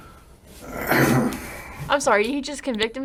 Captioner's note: detective clears his throat